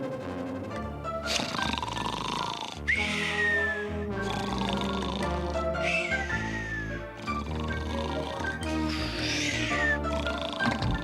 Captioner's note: snores